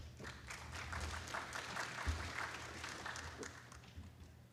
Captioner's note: applause